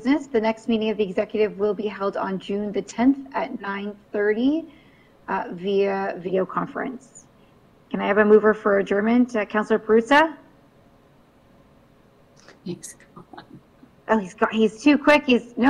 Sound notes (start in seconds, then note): 13.2 chuckles